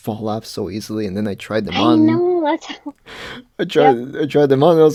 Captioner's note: laughs